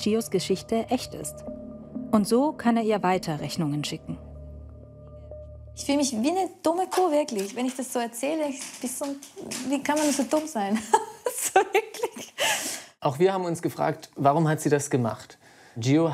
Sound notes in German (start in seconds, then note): 11.3 lachend